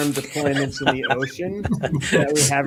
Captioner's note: laughter